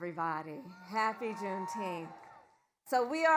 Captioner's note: applause